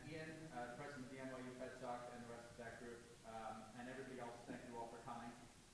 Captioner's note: speaking softly